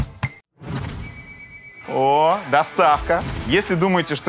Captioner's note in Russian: музыкальная заставка; звонок в дверь